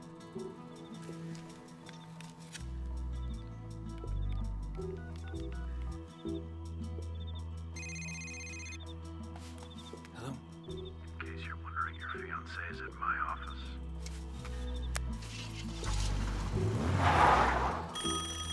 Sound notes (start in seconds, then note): 7.8 cell phone rings; 17.5 tires screech; 17.9 telephone rings